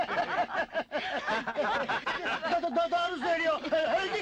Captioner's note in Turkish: Birarada gülüşmeler